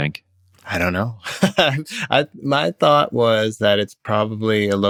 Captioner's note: laughter